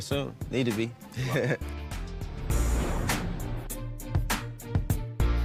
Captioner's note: laughs